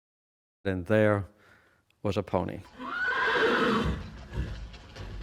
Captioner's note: horse neighing sound